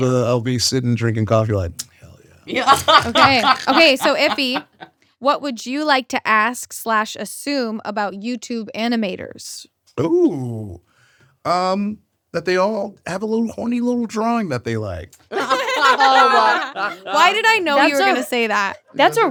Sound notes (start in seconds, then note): 15.2 all laughing